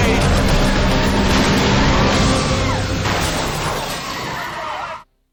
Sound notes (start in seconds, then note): 0.1 tires screeching; 2.0 woman screams